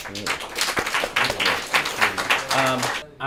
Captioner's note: applause